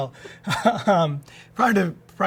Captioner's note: laughs